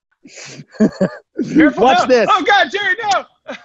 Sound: laughs

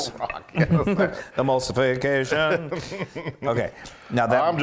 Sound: laugh

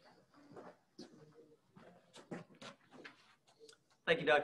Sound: footsteps clanging

